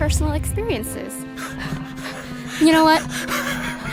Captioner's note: laughing